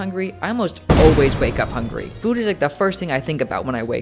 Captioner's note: boom